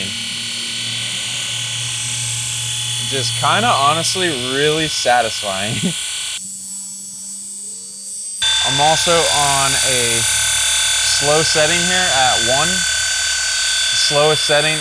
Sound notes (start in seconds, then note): 0.0 machine whirring; 6.5 tape forwards